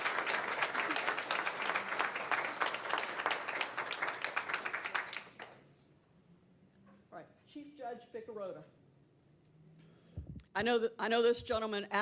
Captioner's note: applause